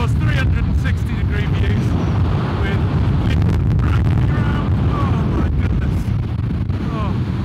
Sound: wind noise

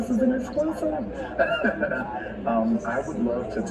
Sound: participant laughs softly

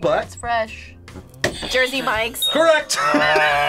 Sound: buzzer rings

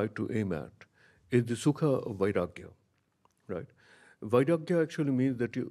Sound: speaks in a foreign language

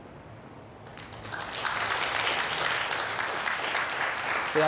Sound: applause

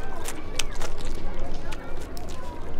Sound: chews offensively

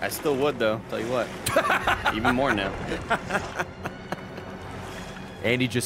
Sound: laughs

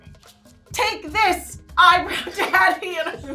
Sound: gamer laughing

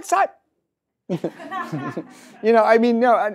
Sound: audience laughs; laughs

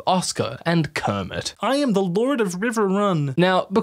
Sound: shockingly decent kermit impression

